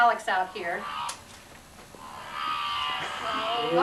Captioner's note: electronic whirring